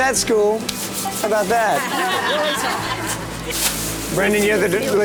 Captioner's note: laughter